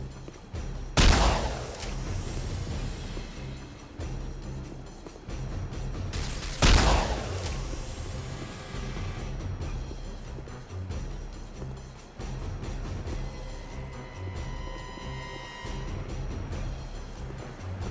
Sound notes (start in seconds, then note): 6.1 gun firing; 11.8 dramatic music